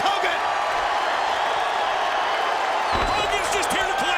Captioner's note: audience cheering